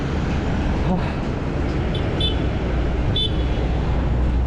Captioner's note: motorcycle going the wrong way